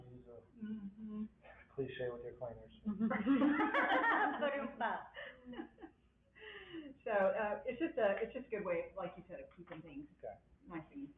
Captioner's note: laughter